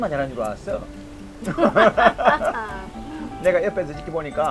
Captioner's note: both laughing